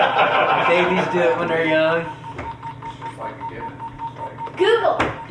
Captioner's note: laughter; game timer beeping